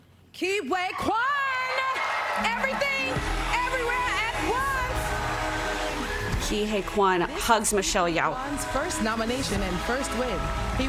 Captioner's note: applause